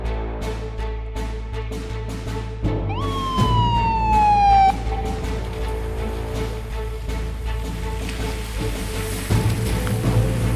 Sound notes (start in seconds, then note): 2.8 siren blaring